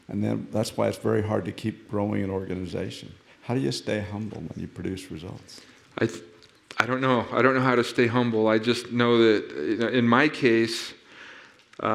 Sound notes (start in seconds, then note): none